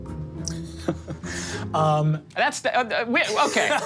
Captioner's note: laughs